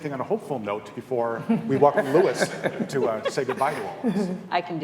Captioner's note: laughter